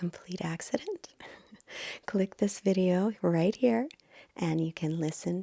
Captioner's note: chuckles